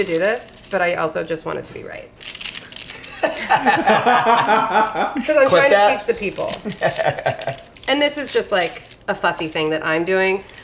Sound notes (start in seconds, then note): 3.0 laugh